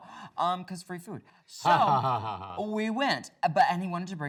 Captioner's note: laughs